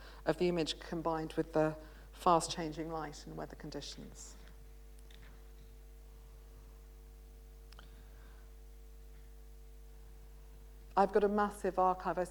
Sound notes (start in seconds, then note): 5.1 pause